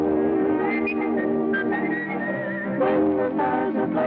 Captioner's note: whistling; singing